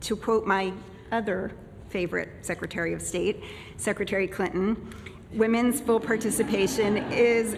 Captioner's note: laughter